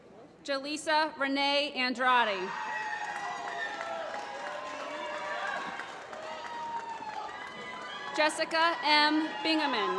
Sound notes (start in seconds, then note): 2.8 applause